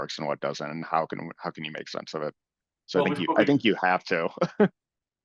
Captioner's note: laugh